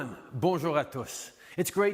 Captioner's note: French